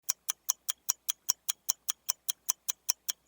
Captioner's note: ticking